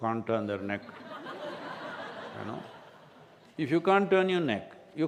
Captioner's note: laughter